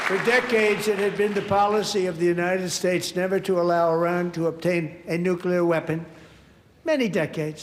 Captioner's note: applause